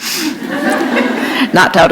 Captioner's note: laughter